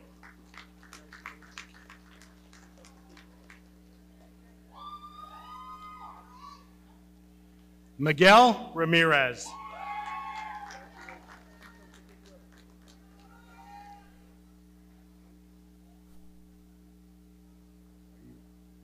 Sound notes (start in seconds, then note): 0.0 audience clapping; 4.7 audience cheering; 9.4 audience cheering